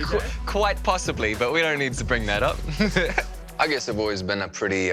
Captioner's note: laughs